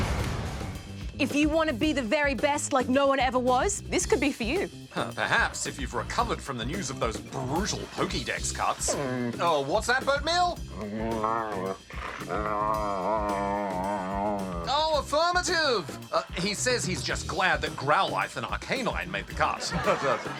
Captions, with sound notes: If you want to be the very best like no-one ever was, this could be for you. Perhaps, if you've recovered from the news of those brutal Pokedex cuts. (GROAN) Oh, what's that, Boatmeal? (GROWLS, GRUMBLES) Oh, affirmative! He says he's just glad that Growlithe and Arcanine made the cut.